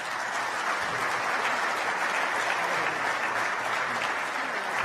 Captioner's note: applause